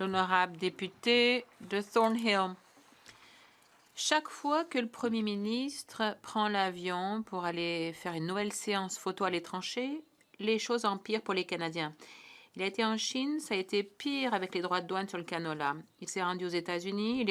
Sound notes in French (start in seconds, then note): 3.5 voix de l'interprète